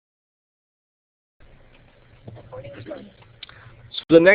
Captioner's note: audio Pause